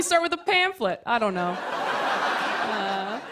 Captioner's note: laughter